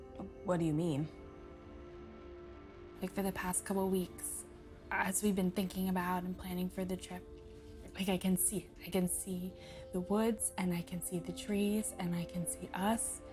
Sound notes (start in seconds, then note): none